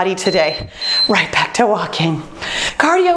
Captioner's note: beeping